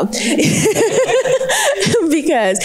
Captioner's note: laughs